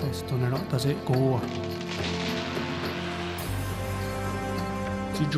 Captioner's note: speaking native language; roots pulling loose